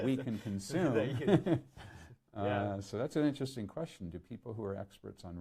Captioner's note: laughs